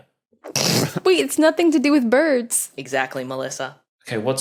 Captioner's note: snorts